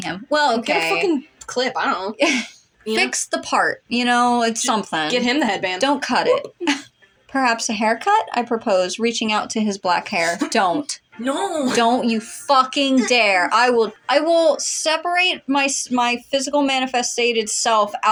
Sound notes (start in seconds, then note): 2.3 laugh; 6.4 chortle